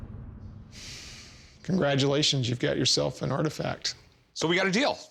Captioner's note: exhales